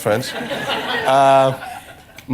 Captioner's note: laughter